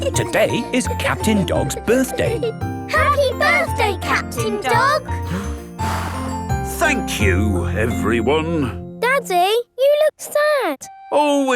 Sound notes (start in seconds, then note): 5.2 blows